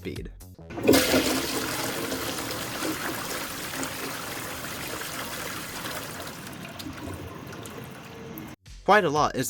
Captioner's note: toilet flush sounds